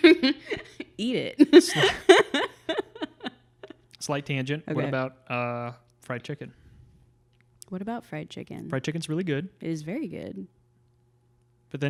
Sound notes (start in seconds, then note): 0.0 laughs